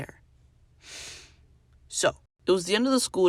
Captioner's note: inhale